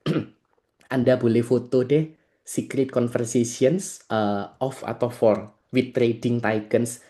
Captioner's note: berdehem